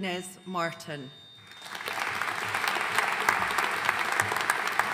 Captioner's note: audience applauding